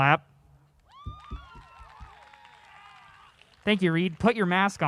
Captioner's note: audience applause